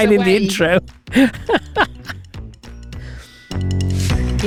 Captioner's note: laughs